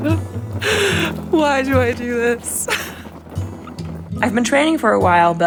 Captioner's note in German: lacht